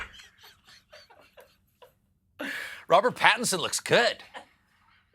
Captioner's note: laughter